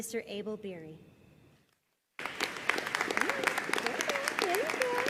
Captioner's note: audience applauding